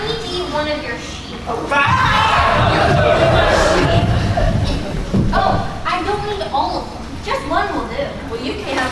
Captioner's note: baaing